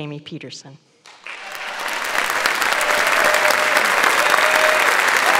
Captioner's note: audience applauds